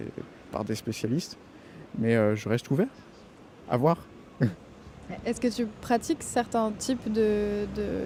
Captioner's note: laughter